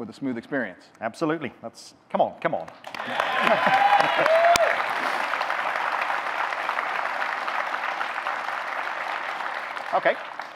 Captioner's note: audience clapping, cheering